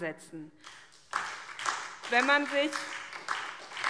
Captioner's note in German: Beifall SPD